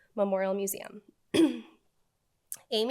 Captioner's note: clears throat